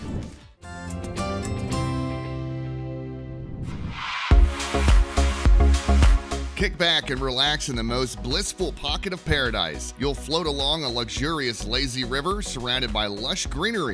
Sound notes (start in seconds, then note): 0.3 whoosh